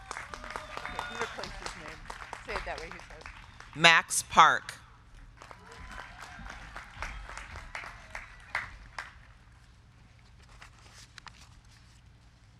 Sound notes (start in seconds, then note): 0.0 crowd clapping; 5.4 crowd cheering